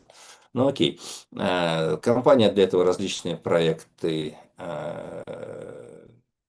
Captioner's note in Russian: фыркает